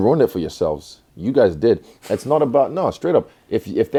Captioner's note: chuckles